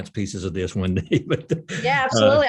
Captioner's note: laughs